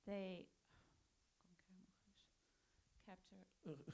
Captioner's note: Interpreter whispers to Farhadi